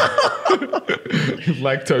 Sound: laughing

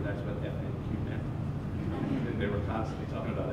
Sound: laughter

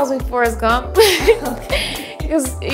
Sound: both laughing

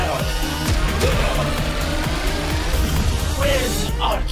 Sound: harpoon thumps

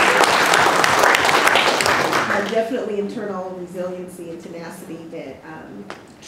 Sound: applause

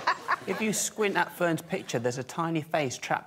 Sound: laughter

